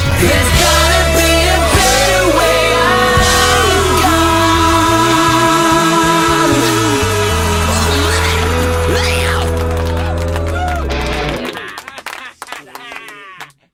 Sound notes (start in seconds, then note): 6.2 applause; 6.7 guitar; 11.2 laughter